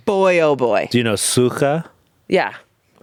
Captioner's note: speaking foreign language